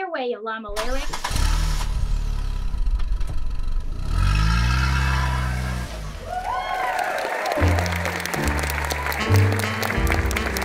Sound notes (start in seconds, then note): 0.7 car Engine Noise; 4.6 applause